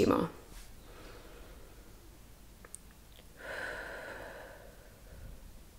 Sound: breathes

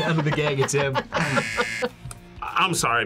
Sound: laughs; buzzer

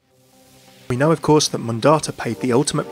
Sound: voiceover

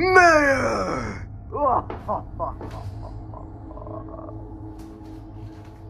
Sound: maniacal Laughter

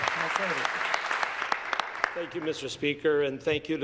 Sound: applause

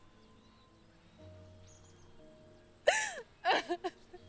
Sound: crying

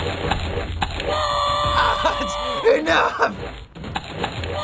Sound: in game: infuriated scream; laughs

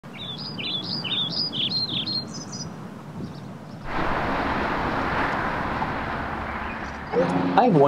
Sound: birds chirping

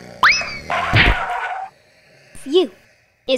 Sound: smack

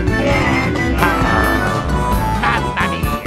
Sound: groan

